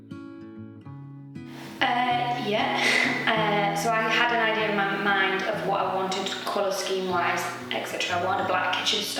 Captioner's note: laughs